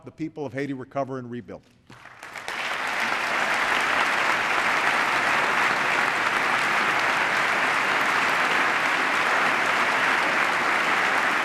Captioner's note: applause